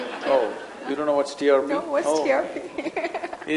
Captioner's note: laughs